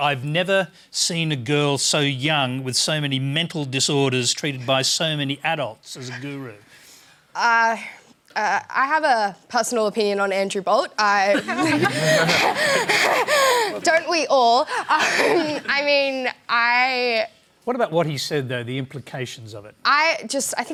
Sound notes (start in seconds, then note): 11.3 laughter; 11.3 laughs